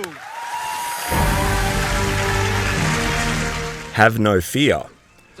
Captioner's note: audience cheering